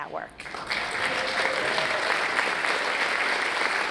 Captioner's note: audience applauding